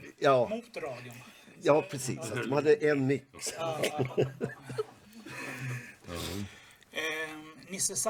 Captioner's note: laugh